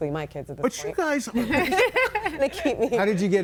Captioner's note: laughs; everybody laughing